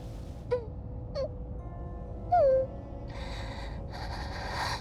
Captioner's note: Kira whimpers; tense music